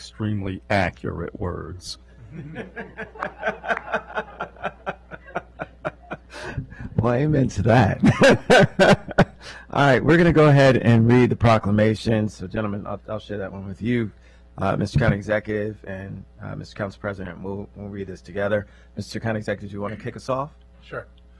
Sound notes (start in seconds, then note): 8.0 laughter